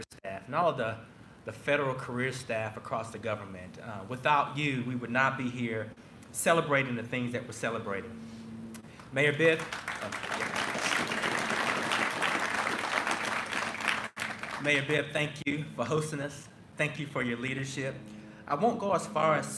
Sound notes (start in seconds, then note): 9.4 applause